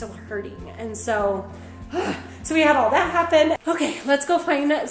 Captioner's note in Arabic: تنهيدة ثقيلة